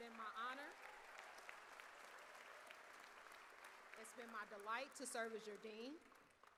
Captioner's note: cheers